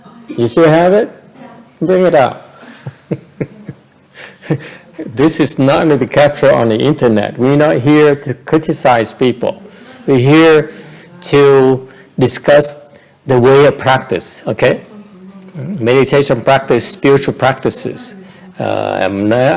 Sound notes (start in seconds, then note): 2.7 laughter